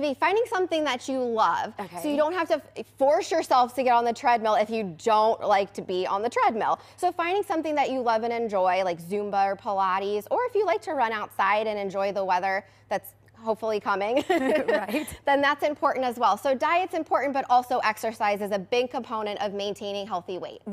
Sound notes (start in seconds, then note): 14.2 laughing